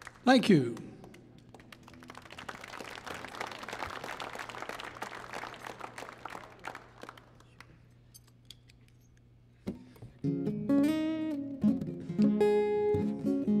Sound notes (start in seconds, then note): 2.0 audience applauding; 9.6 tuning guitar